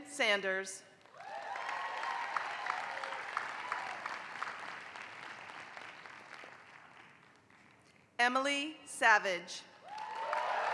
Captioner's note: applause; applause